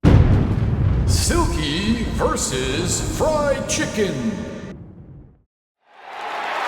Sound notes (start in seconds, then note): 0.0 boom!